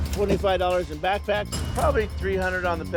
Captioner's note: cash register dings